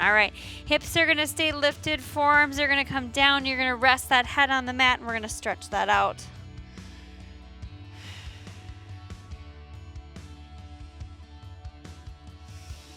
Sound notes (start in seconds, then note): 6.3 exhaling; 6.3 upbeat music continues